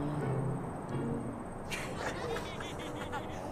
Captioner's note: laughter